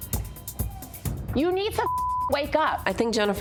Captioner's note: tense music plays; beep